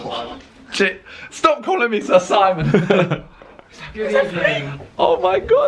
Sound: chuckling

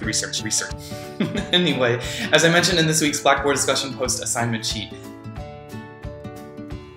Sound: chuckle

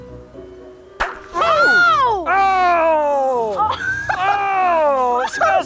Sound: fun music; both gasping; package pops

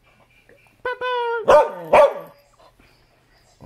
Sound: barking

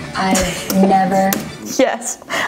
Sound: laughs

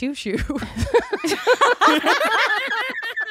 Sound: they laugh

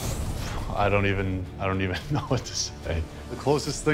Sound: laughs

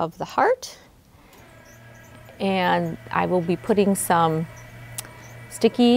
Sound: bed buzzes

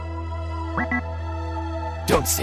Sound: low Battery Ping

